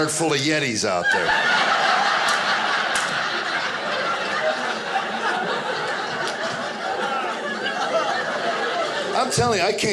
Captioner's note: audience laughing